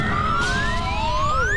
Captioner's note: screams